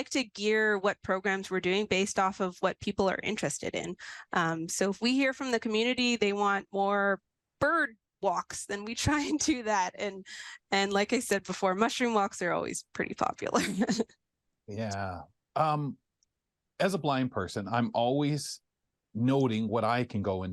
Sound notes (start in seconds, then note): 13.6 chuckles